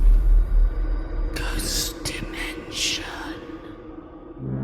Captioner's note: ghostly Voice